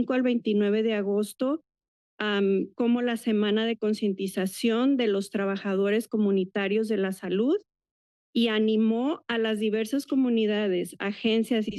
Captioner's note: foreign language